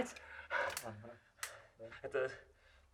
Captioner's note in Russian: взволнованно дышит